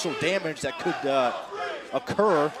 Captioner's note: crowd chatter